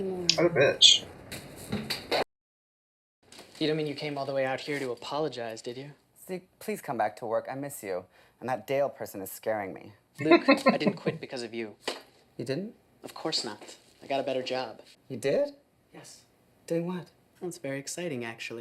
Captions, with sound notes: What a bitch. [Chuckling]